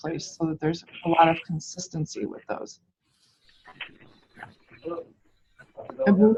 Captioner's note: background chatter